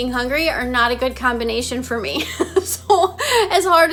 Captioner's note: chuckles